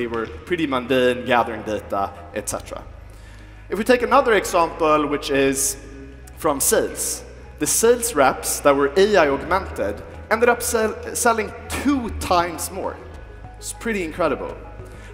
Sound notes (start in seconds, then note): none